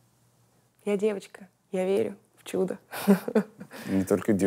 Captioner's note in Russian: смеется